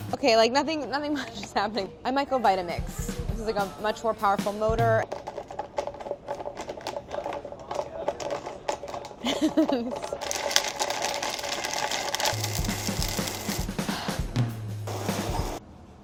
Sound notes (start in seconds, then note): 5.2 motor running; 9.2 laughter